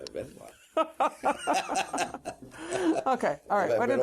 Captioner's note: laughter